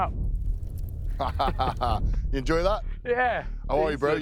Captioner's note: chuckles